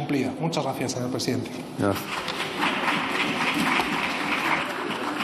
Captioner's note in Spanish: Aplausos